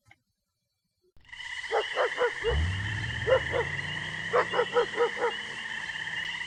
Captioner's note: crickets chirping, dog barking; city sounds